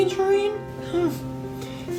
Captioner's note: gasp